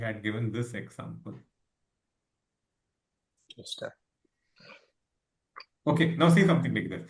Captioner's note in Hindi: नाक से की जाने वाली आवाज़